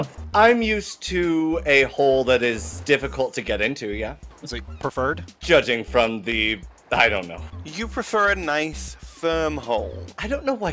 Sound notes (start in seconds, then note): none